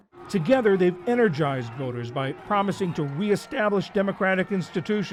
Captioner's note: voice-over